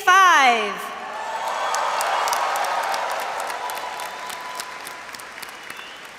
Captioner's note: audience cheers and applauds